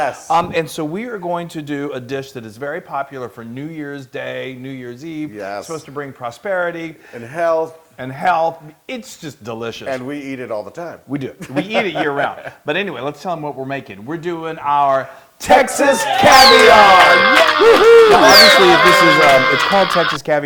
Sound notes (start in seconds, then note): 11.4 laugh; 16.0 applause